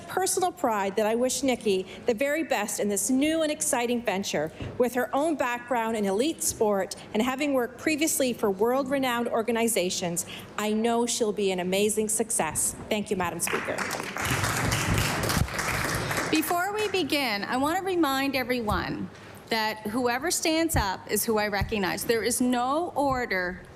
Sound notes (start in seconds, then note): 16.7 applause